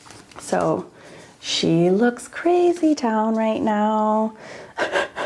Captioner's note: laughs